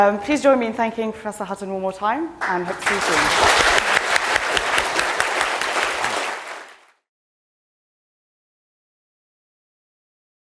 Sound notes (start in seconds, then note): 2.4 audience applauding